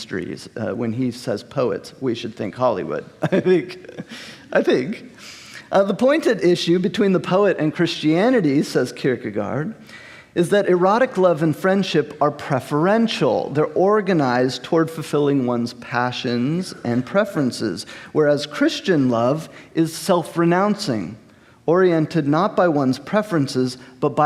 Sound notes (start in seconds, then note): 3.0 host laughing